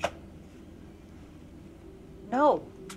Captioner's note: crickets chirping